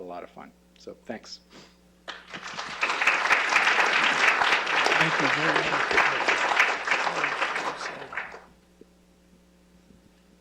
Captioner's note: applause